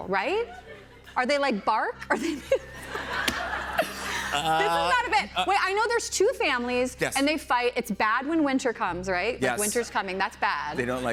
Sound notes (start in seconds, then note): 2.1 laughter